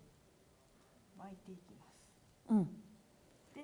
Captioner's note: speaking japanese